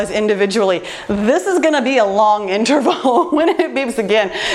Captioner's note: laughs